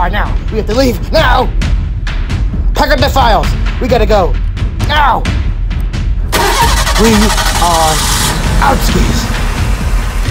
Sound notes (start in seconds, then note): 6.3 car engine starts